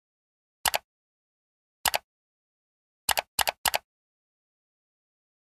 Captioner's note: clicking